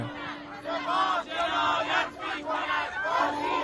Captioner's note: crowd Chanting